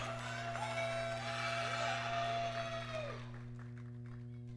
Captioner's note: audience cheering